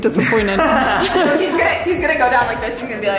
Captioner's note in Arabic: يضحك